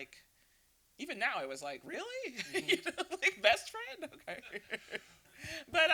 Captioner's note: laughter